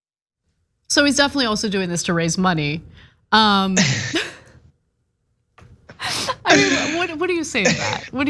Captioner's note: laugh